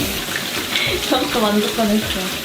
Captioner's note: laugh